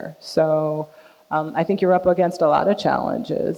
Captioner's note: none